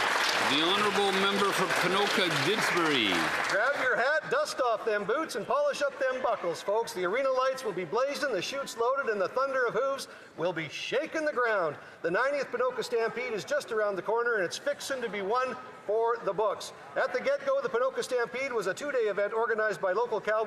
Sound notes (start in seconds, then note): 4.2 some Applause